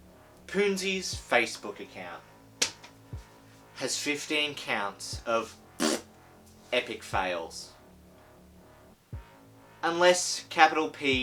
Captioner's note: fart sound